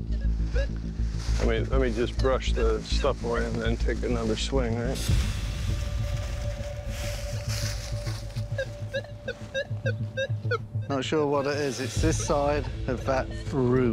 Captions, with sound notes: Let me just brush the stuff away and take another swing. [beeping continues] Not sure what that is. It's this side of that root.